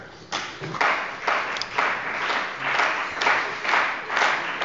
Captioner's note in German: Beifall bei dem BÜNDNIS 90/DIE GRÜNEN und der CDU